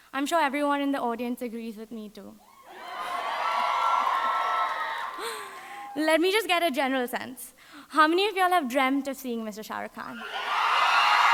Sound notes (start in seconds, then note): 2.5 audience cheering